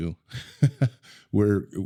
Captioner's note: laughs